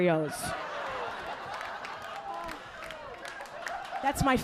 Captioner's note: audience laughing